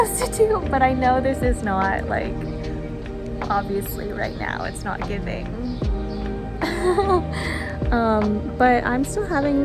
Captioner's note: haha